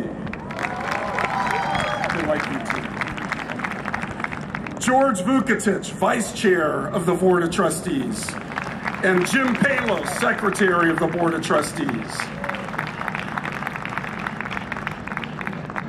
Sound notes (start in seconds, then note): 0.3 cheering and Applause; 8.2 applause; 12.0 applause